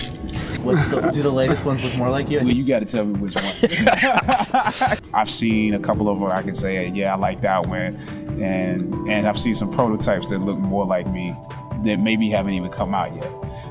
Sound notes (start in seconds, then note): 3.8 men laughing